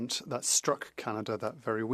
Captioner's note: speaking French